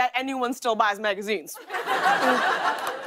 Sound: laughter

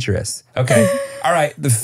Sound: laughing

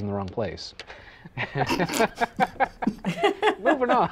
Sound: laughing; laughter

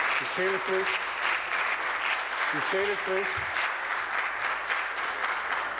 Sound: applause

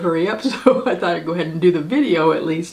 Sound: laughing

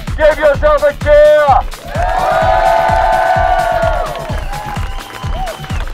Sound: cheers and applause

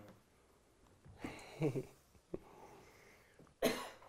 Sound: giggling

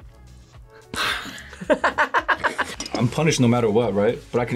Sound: laughs

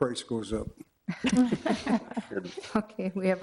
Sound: all laughing

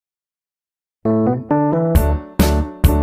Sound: silence

